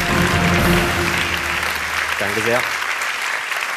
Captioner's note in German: Applaus